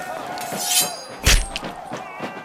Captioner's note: blades ringing; guns firing; soldiers shouting